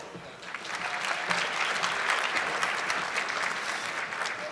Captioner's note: audience clapping